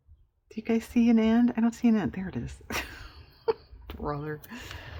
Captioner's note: laughs